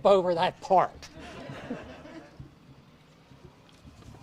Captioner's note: audience laughs